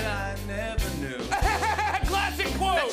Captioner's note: laughs